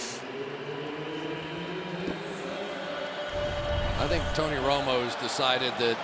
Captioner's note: pa announcement